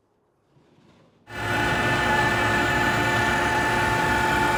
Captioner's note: saw whirring